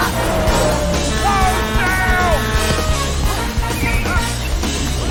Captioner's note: horn blaring